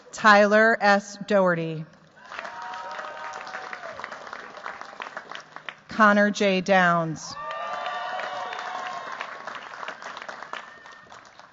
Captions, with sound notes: Tyler S. Doherty. [CHEERS, APPLAUSE] Connor J. Downs. [CHEERS, APPLAUSE]